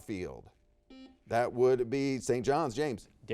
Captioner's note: buzzer beeps